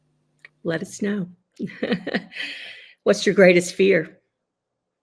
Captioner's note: laughs